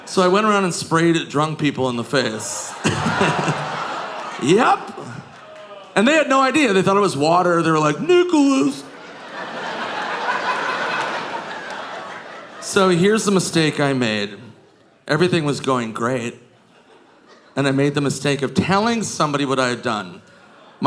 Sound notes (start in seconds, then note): 2.7 audience groaning; 8.4 audience laughing